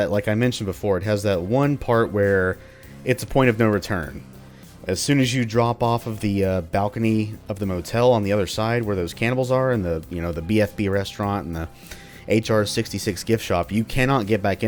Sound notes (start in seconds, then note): none